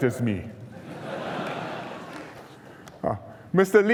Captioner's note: laughter